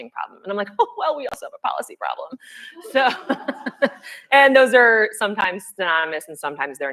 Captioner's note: laughs; laughter